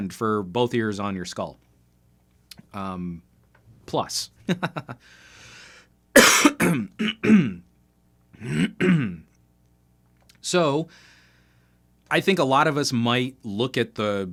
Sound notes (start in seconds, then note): 4.4 laughter; 6.1 coughing